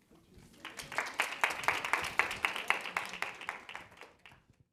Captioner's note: class applauds